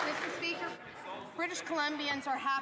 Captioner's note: some Applause